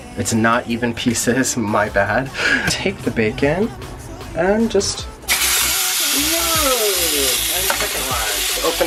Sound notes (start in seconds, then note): 2.2 laughs; 5.2 bacon sizzles